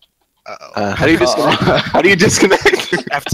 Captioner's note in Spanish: risas